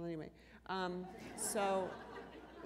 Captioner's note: laughter